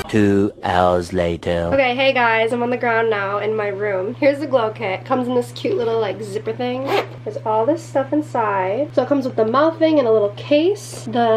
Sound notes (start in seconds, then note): 6.8 loud zipping